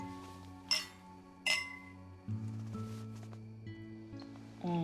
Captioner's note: glasses clinking